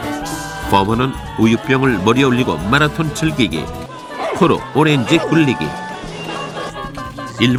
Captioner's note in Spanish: Risas